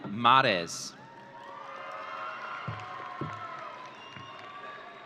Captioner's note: audience cheering